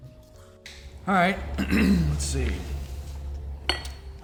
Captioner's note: clears throat